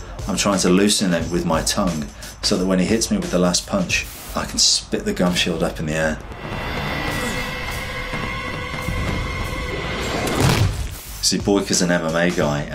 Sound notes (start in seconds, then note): 6.0 dramatic instrumental music; 6.1 air whooshes; 10.2 Boyka thuds; 11.3 air whooshes